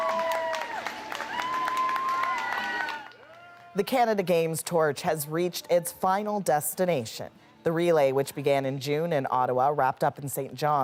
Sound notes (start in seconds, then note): 4.0 cheers and Applause